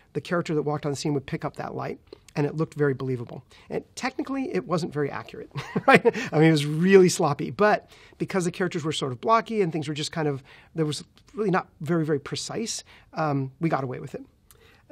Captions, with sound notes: the character that walked on the scene would pick up that light. And it looked very believable. Technically, it wasn't very accurate. [laughs] It was really sloppy, but because the characters were sort of blocky and things were just kind of... There was really not very, very precise, we got away with it.